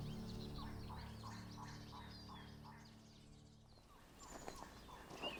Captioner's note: trogon chirps; gravel crunches